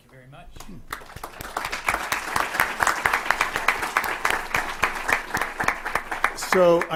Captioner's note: applause